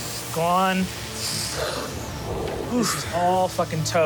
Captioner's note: wind whooshing